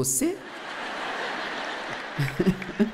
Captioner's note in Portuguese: audiência ri